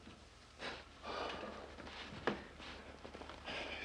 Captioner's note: exhales